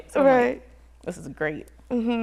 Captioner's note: none